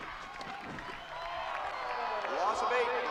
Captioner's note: crowd groans